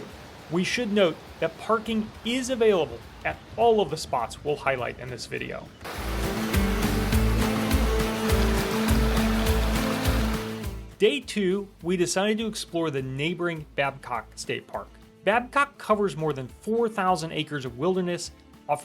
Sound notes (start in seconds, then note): 5.9 rushing water